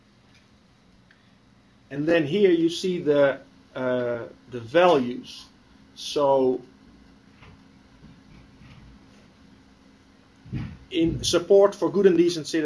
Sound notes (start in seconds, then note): 0.1 pause; 6.2 pause